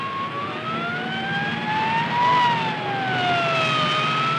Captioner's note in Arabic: صافرات الإنذار تصرخ